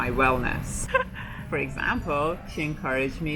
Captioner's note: chuckles